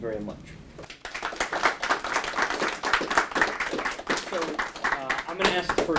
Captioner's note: audience applauding; applauds